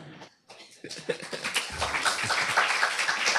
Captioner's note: applause; laughs